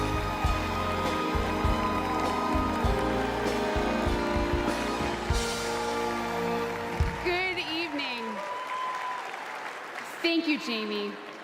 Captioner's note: applause